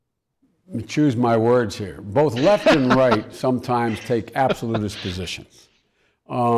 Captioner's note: laughing